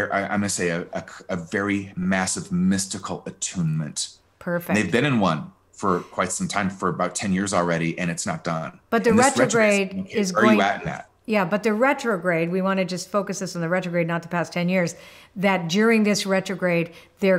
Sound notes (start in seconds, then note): 10.3 overlapping chattering